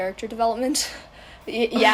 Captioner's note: noises of agreement